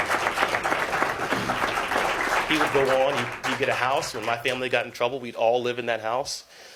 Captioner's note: applause